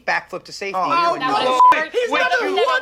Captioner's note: beep